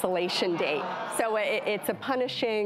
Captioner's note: crowd booing